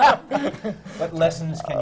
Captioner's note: laughter